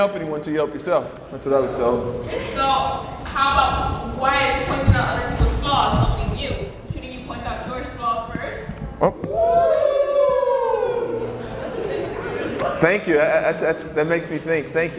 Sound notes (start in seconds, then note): 9.1 crowd cheers